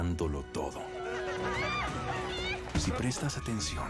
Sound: screams

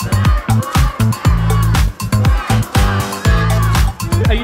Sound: crowds chanting; upbeat music

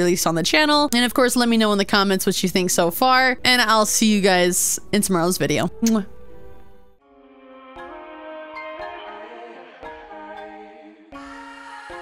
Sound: kiss

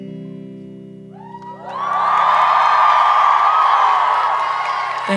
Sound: applause

